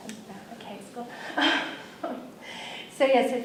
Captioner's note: laughs